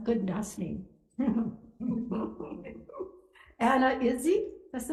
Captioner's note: laughing